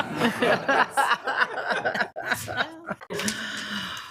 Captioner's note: group laughs